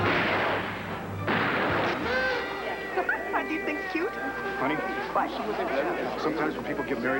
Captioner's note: gunshots